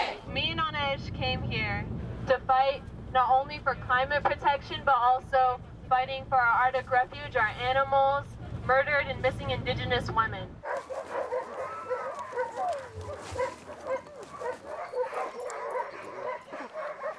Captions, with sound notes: Me and Anesh came here to fight, not only for climate protection, but also fighting for our Arctic refuge, our animals, murdered and missing Indigenous women. (dogs barking)